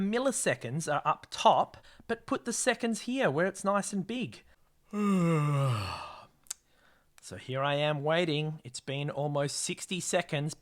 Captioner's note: yawn